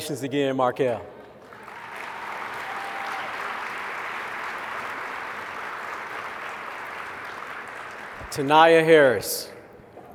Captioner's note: applause